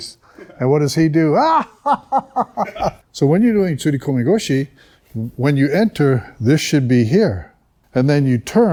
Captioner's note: laughter